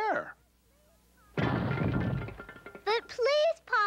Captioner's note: crashing